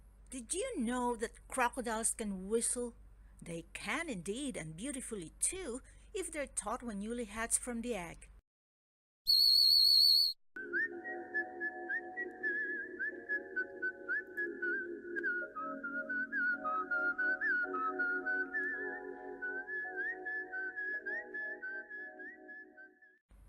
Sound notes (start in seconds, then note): 9.2 whistling chorus